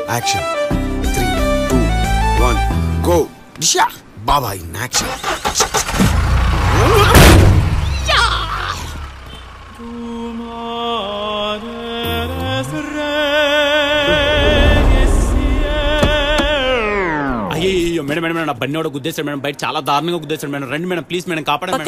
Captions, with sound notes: Action! Three.. Two. One. - One, go! Baba, in action. [engine revving] [opera music] Madam someone dashed the bike ma'am. Please come and save me ma'am.